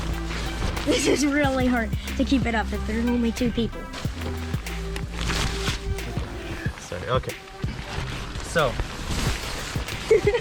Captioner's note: plastic rustling; laughing